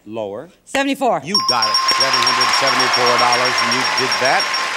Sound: bells dinging

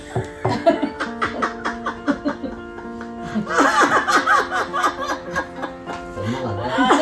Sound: laughing

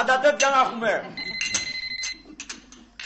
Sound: phone ringing

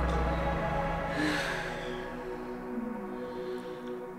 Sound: Ana et Lucia sigh

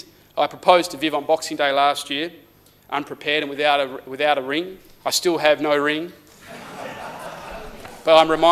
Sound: laughter

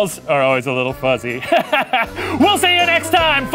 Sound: laughs

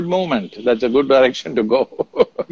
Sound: laughs

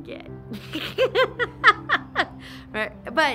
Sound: laughs

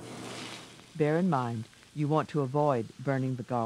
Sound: voiceover

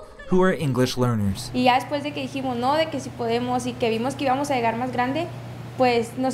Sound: Spanish

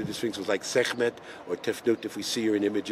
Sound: speaking in a foreign language

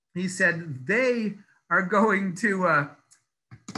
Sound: laughs

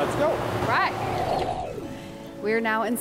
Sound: air whooshing

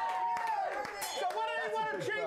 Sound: audience cheering; bell rings

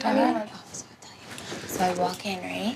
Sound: whispering

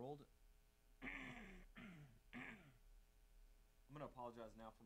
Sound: clearing throat

